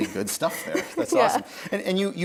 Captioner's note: laughs